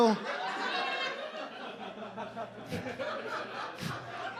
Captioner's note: audience laughs